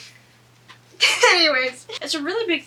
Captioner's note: laughs